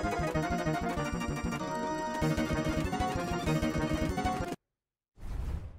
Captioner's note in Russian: перемотка